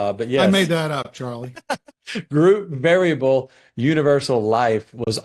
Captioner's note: laughs